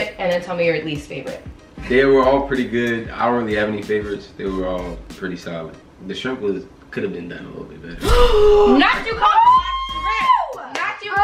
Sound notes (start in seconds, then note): 8.1 gasps